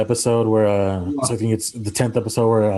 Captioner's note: kisses